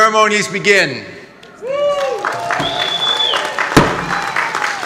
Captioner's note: audience clapping